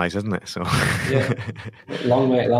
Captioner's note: laughing